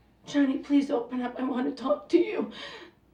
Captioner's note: voice cracking